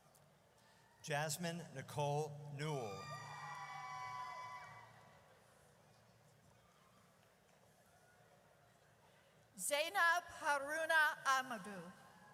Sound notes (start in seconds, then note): 2.7 audience cheers